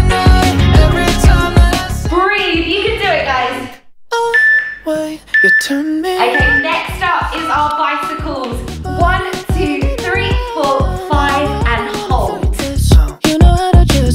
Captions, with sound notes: Breathe, you can do it guys. (workout timer beeping) Okay, next up is our bicycles. One, two, three, four, five, and hold.